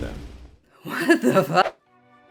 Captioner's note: whoosh